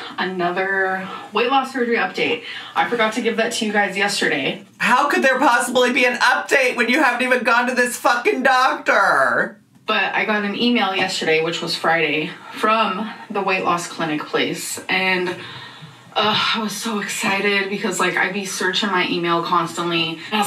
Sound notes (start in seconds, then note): 15.3 sighs